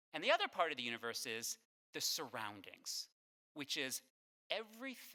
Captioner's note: none